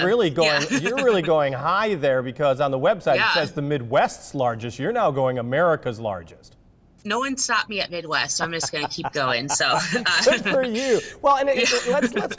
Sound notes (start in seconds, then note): 8.4 laughs; 10.9 both laughs